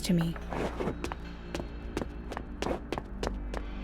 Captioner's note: MC Footsteps